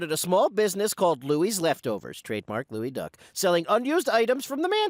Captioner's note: sotto voce